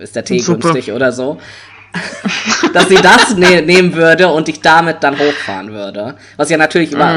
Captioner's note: both laugh